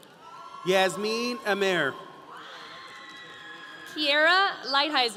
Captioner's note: audience cheering